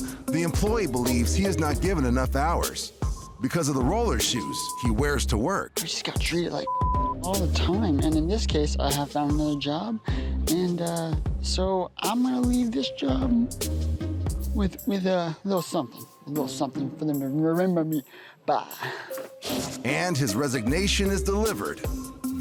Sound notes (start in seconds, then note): 6.6 beeping